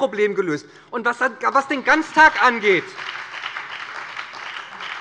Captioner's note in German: Beifall bei der SPD und der FDP